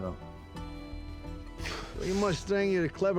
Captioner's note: exhales; scottish accent